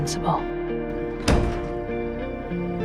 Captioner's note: voiceover; door closes